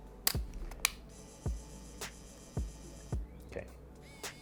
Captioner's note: camera whirring